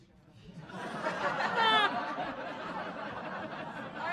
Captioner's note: laughing